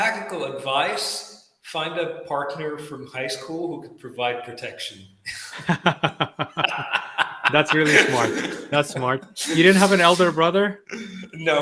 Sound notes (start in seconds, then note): 5.3 laughing